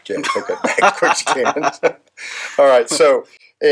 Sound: laughing

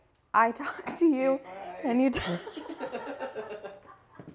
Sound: laughs

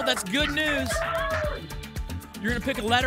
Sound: applause and cheering

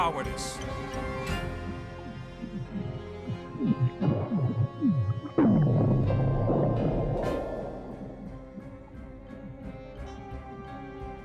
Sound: goo gurgling

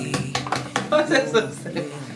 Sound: laughter

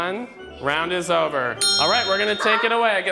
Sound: bell dinging

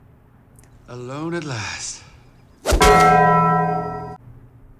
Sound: Taco Bell gong

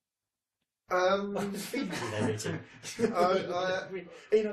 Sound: laughing

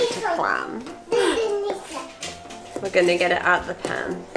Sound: babbles

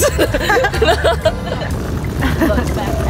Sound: laughing

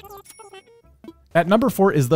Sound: cash register dings

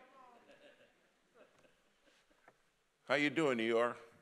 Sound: congregation laughing

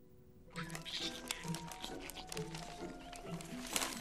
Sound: muffled animal noises

